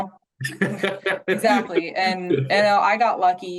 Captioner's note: laughs